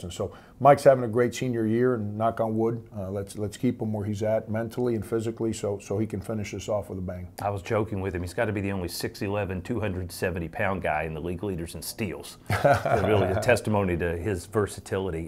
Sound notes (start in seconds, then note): 12.5 laughs